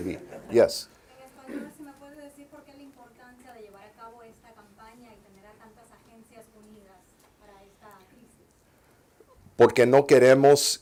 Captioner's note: reporter in Spanish